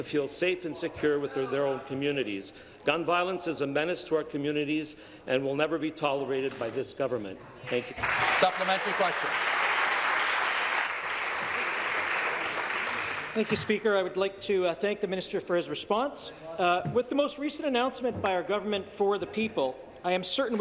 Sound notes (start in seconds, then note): 11.5 applause